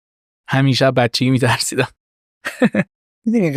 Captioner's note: laughs